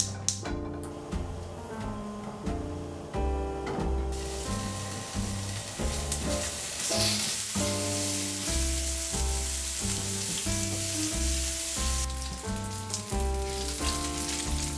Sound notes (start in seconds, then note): 5.3 bacon sizzling